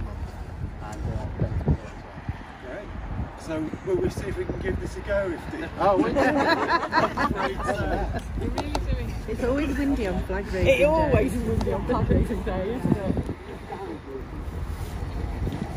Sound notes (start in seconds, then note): 6.0 laughs